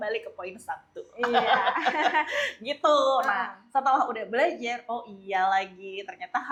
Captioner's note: laughs